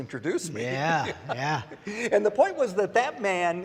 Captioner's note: laughs